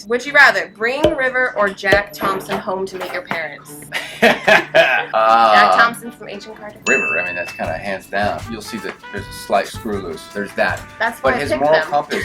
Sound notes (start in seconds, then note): 3.9 laughs